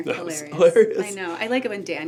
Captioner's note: laughs